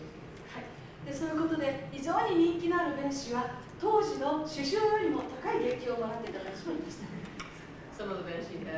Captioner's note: speaking Japanes